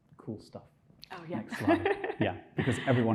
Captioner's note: laughing